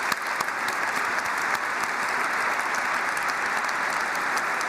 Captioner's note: applause